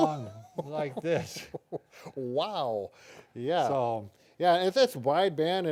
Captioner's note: laughs